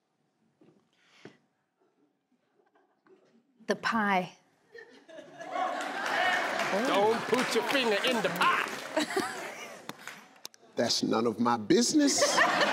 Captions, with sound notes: - The pie. (crowd cheering) - Oh. - Don't put your finger in the pie. - That's none of my business.